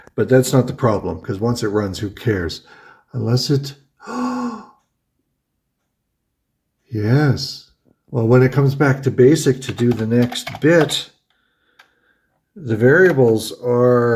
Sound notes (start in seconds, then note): 4.0 gasps